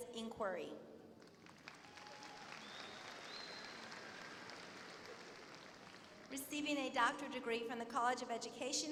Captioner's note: applause